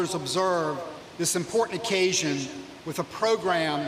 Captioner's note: none